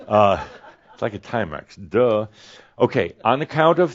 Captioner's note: a few chuckles